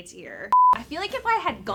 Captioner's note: beep